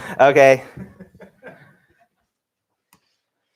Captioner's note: laughter